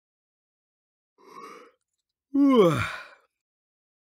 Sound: sound of yawning

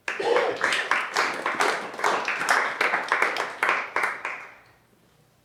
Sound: applause

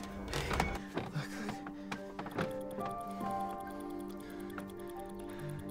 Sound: breathes heavily

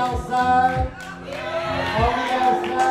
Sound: crowd cheers

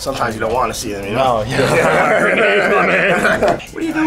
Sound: both laughs

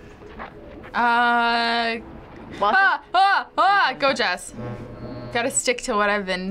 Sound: panics

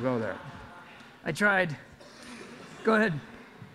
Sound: audience laughs

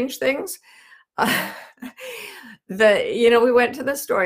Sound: laughs

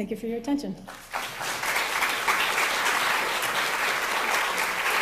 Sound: crowd applauding

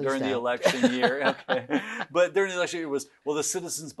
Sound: both laugh loudly

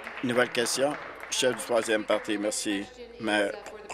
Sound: applause

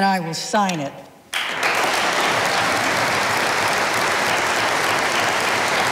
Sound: audience applauding

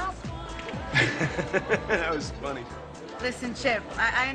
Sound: laugh

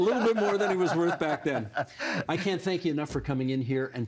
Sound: laughter

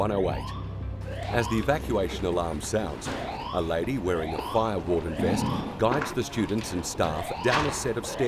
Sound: siren sound

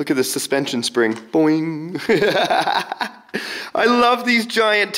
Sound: laughs

